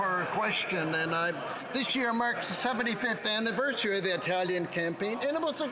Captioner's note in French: voix de l'interprète